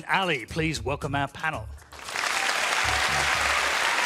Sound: applause

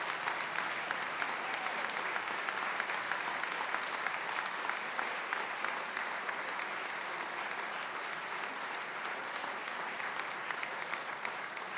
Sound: applause

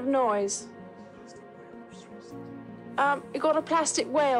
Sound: Prince Charles whispers

